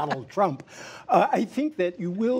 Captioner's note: laughter